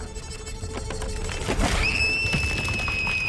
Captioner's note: screams